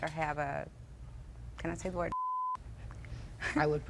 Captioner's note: beep